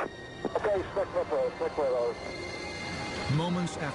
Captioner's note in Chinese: 無線電